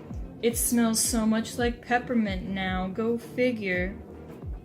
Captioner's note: none